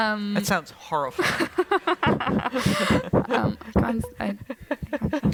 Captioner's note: laughter